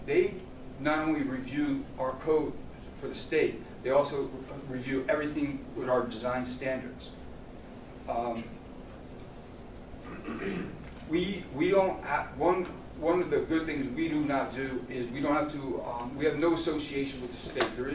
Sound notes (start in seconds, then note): 10.0 clears throat